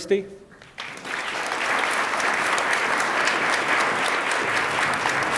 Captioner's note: attendees applaud